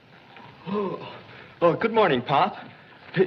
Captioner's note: yawns